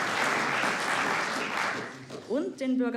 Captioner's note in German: Applaus